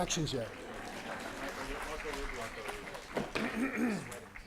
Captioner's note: applause